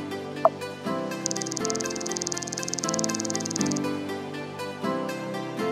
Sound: keyboard typing rapidly

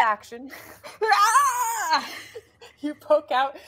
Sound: yells

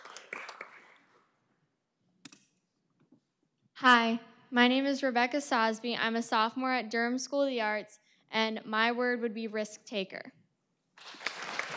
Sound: applause

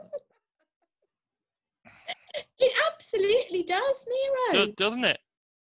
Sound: image appears, laughs

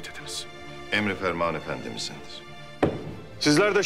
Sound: cane tapping sound

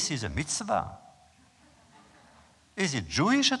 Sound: laughter

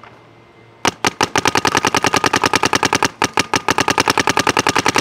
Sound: paintball gun shooting rapidly

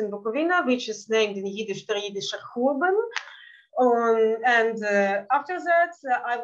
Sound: speaking Yiddish

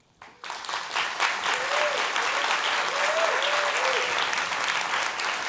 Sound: cheering and applause

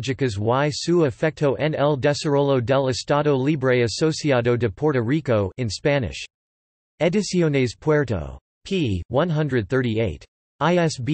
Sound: in Spanish

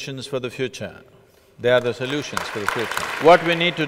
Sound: applause

